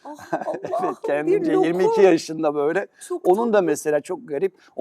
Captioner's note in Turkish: kahkaha